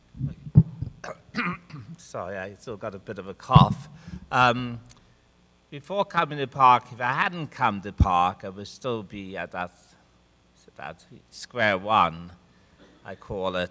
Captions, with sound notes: - (clears throat) Sorry, I still got a bit of a cough. Before coming to PARC, if I hadn't come to PARC, I would still be at that square one, I call it.